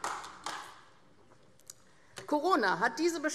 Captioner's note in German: Beifall AfD